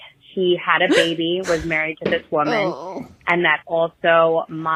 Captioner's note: gasp